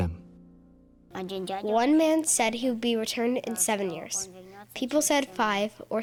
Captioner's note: through translator